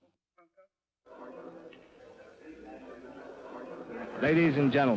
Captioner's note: muffled chatter